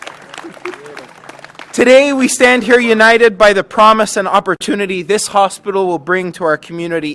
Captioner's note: laughter; applause